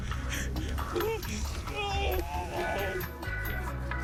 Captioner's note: screams